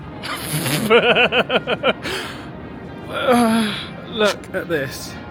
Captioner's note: laughing